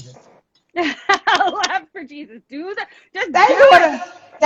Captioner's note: laughs